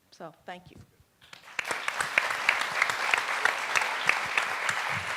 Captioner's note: audience applauds